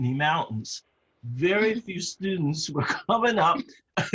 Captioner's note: laugh